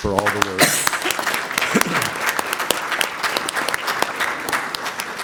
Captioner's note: applause